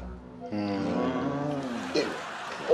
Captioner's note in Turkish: Hep bir ağızdan